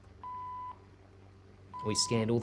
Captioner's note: scanner beeping